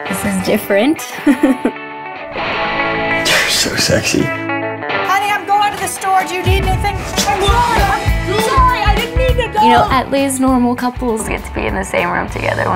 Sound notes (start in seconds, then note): 1.2 laughs; 7.2 Chris yells